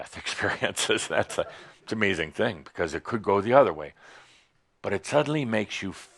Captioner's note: chuckles